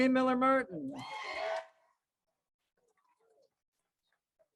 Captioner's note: crowd cheers